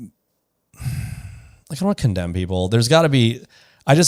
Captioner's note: sighs